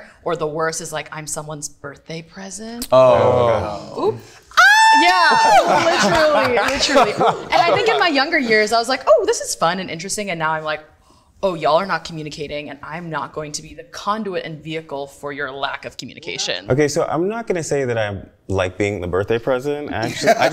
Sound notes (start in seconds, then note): 4.5 screams